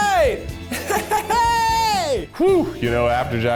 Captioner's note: cheering